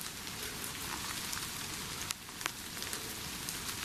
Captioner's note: rain pattering